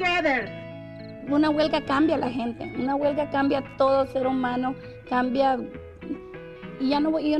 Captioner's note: speaking Spanish